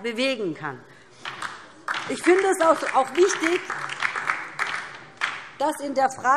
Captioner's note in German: Beifall DIE LINKE